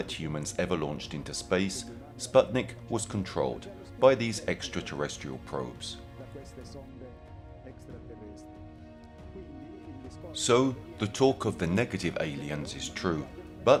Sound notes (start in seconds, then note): 5.9 dramatic music continues; 5.9 speaking in foreign language